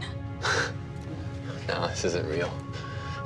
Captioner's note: scoffs